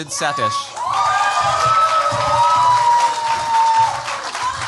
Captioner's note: cheers, applause